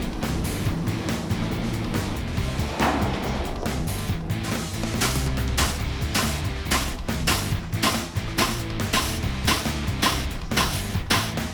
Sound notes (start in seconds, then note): 5.0 machinery thuds